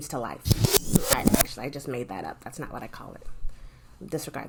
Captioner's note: rewind sound